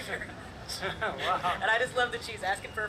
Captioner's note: laughs